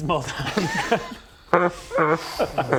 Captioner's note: unsympathetic laughter